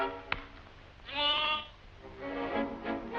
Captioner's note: bleating